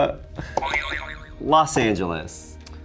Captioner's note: springing sound